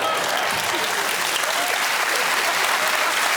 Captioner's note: applause